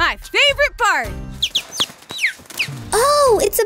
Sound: chirps

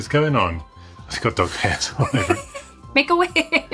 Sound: laughs

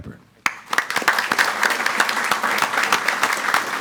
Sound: audience applauds

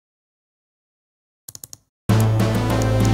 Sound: mouse clicking

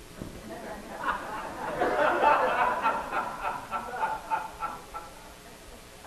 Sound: audience laughing

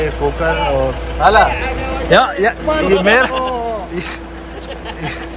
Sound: Arabic

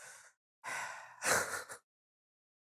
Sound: le sigh

